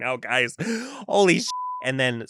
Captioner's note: beep